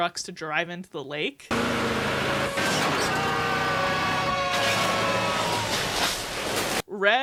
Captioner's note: screaming, splashing